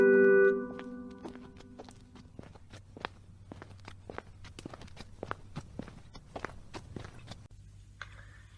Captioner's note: footsteps